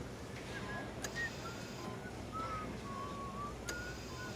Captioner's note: nurse whistling